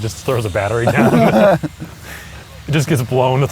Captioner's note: laughs